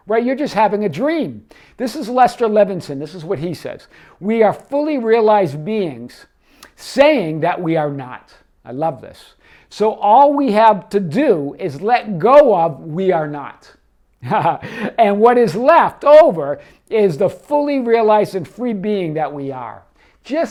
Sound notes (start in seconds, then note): 14.2 laughing